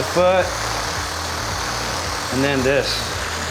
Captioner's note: whirring sound